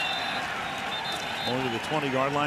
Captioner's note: whistle blows